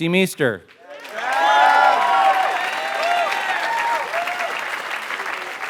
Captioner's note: applause